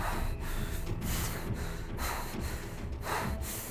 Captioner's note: panting